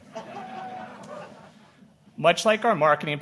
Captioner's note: audience laughing